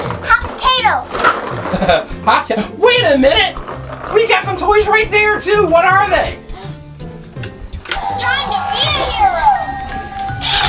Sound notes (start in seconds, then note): 1.7 laughs